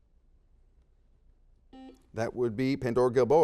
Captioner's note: silence; beeps